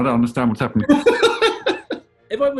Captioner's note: laughing